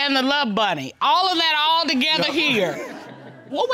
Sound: audience laughing

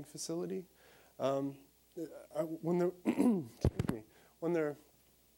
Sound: coughing

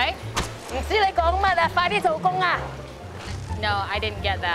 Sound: non-english speech

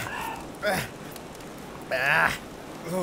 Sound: splutters

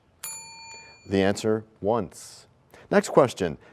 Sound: bell rings, time expires

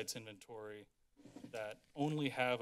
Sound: drawer closes

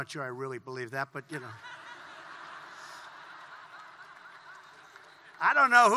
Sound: laughter

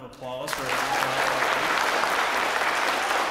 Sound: applause

